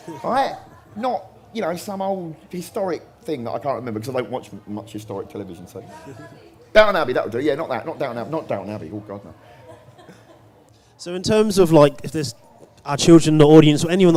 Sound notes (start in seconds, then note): 5.3 audience noise